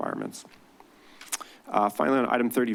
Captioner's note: clicks tongue